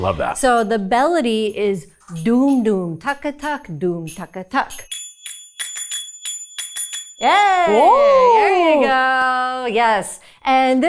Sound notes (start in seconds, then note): 3.0 zappers clacking